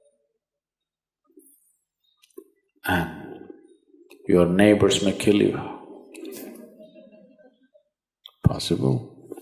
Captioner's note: laughs